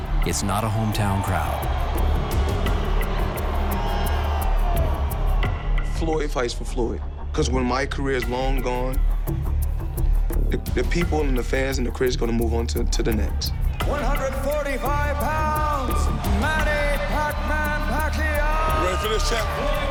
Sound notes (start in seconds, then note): 1.7 audience booing, cheering